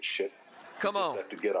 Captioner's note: audience laughing